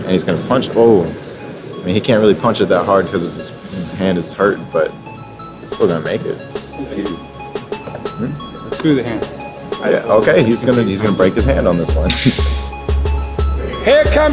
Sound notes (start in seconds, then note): 7.0 upbeat music; 12.0 chuckles; 13.0 upbeat music